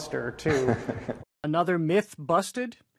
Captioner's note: laughing